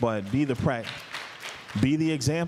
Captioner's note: applause